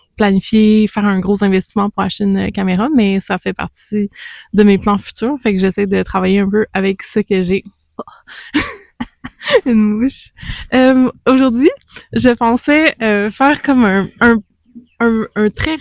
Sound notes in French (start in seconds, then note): 8.5 rires